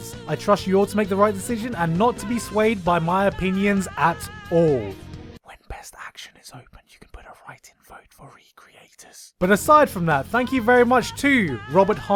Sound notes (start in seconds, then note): 5.5 whispering very soflty